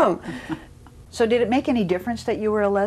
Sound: laughs

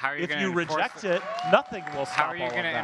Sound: audience claps and cheers

